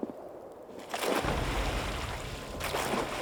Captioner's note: oars splashing